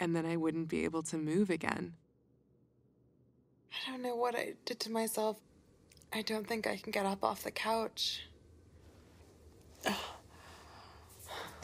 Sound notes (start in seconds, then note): 9.7 grunt